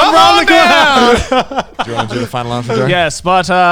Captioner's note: group laughs